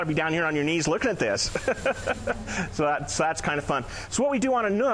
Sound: laughing

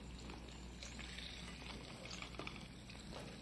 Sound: sizzling

